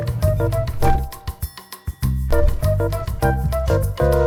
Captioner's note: bell chimes; quirky music